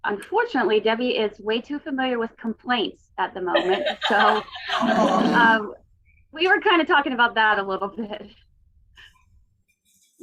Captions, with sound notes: Unfortunately, Debbie is way too familiar with complaints at the moment, so- (participants laughing) We were kind of talking about that a little bit.